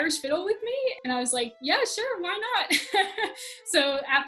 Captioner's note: laughs